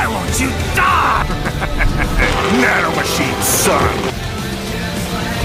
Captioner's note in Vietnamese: Cười